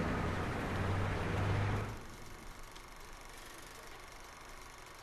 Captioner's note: film projector whirring